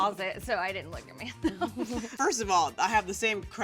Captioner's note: laughs